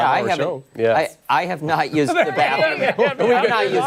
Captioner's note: laughter